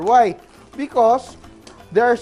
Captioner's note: sizzle